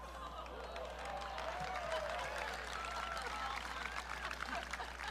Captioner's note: audience cheering